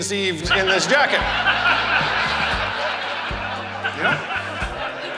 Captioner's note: audience Laughter